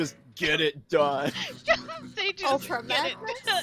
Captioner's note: laughs